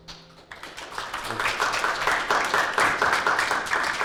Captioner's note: applause